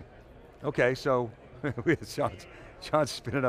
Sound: chuckles

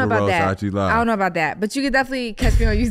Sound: Iman laughs

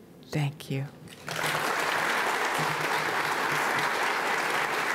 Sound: audience applauding

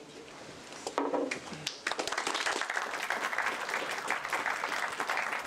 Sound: applause

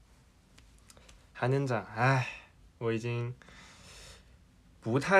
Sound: sigh

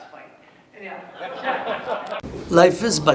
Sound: audience laughs

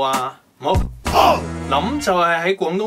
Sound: Cantonese

